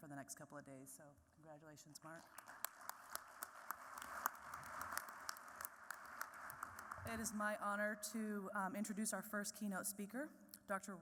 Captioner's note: applause